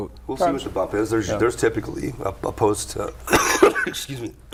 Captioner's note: coughs